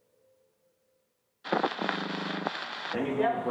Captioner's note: static hissing